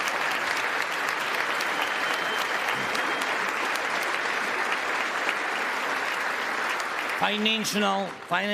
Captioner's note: applause